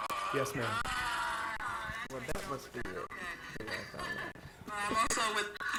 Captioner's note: video testimony playing; laughing on video